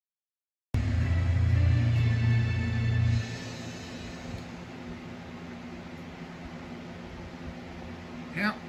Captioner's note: "21Alive News at 6: Weekend Edition" plays in background